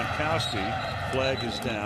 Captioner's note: whistle blows